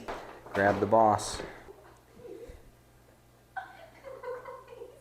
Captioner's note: happy sounds